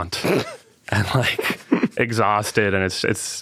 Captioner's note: laughing